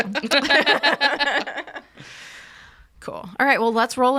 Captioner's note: group laughs